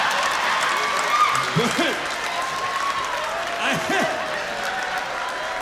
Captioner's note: cheers and applause; laughs